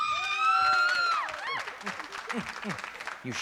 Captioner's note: screaming